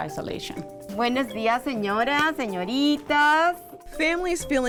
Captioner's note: speaks Spanish